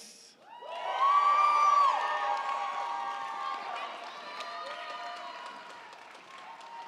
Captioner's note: crowd cheering; crowd clapping